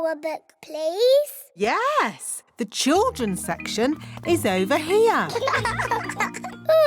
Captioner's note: laughter